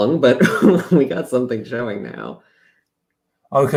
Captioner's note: laughs